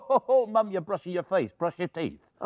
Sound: laughing

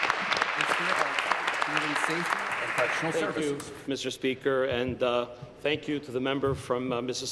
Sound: applause

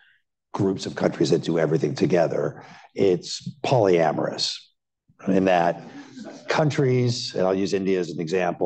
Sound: laughter

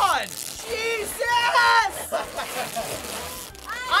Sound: chuckling

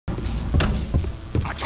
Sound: sounds of hectic combat

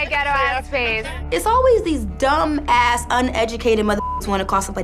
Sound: beep

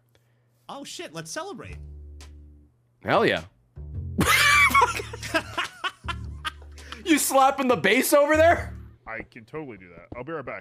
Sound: laughs

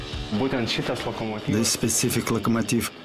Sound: speaking lithuanian

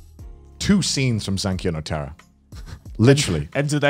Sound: murmurs

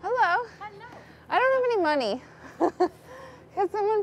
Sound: laughs

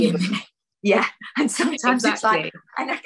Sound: laughs

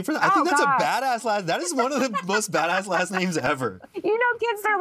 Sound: laughs

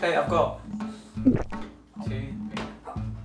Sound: gulp

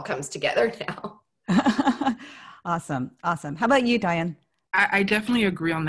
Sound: laugh

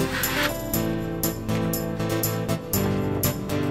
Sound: scraping Noise

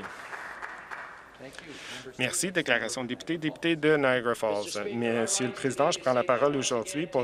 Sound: applause

